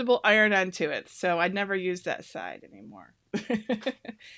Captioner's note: laughs